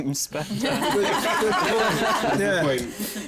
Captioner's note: laughter